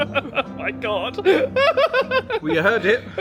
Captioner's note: laughing